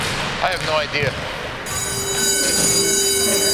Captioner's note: bell ringing